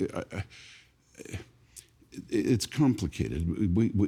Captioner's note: stammering